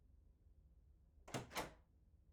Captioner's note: door opening